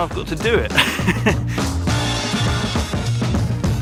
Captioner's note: chuckles